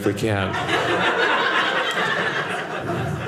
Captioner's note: audience laughing